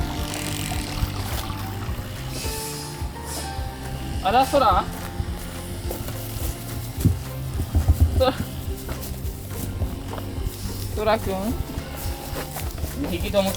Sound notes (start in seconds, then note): 7.2 laughs